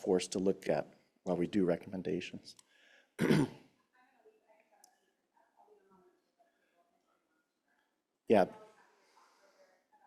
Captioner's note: speaker off mic